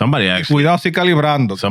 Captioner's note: speaking In Foreign Language